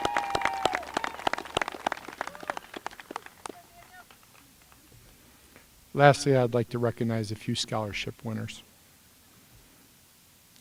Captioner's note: applause